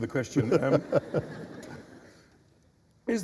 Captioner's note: laughter